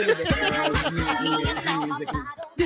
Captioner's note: laughing